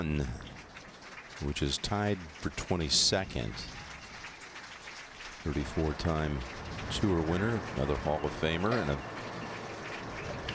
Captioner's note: applause